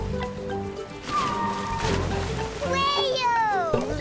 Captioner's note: whale song